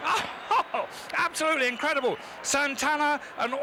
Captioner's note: laughs